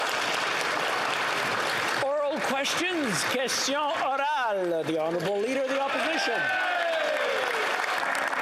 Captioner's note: speaking the greek language; applause